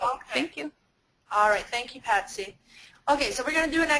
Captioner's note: voiceover